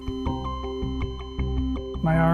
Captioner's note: heart monitor flatlining